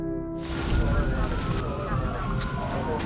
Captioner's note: sirens wailing; fire burning wildly